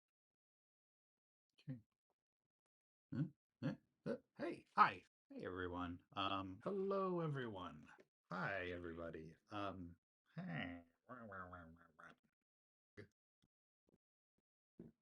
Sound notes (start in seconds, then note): 10.4 random nasally sounds